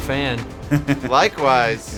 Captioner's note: laughing